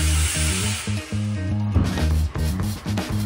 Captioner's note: in Spanish